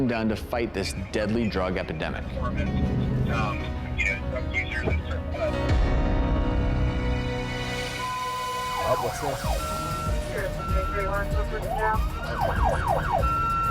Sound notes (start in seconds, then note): 3.5 radio chatter; 11.3 police sirens